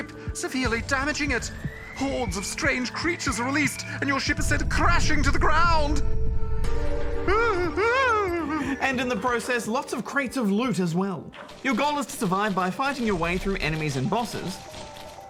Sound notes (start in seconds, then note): 7.2 wails in fright